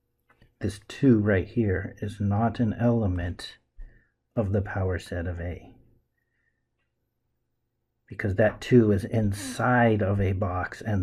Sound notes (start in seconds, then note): none